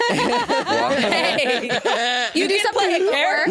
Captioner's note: chuckling; all laughing